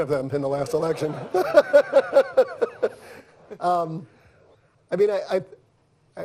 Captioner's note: laughter